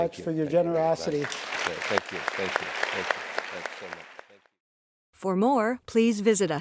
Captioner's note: applause